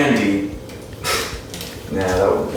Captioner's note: chuckle